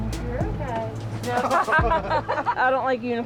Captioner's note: laughter